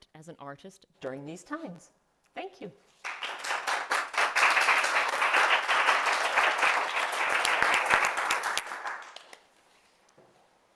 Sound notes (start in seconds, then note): 3.0 audience claps